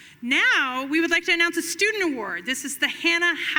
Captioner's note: none